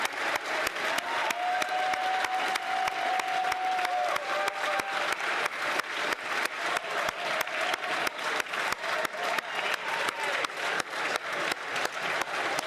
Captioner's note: cheering & Applause